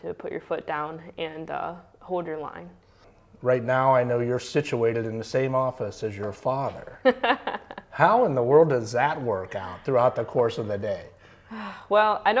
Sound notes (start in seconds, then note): 7.0 laughs